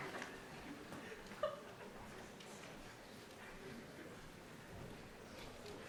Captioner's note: cheering